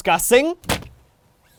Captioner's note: smack